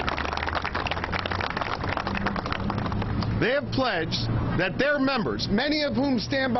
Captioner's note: applause